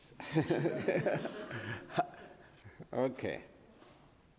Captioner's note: laughs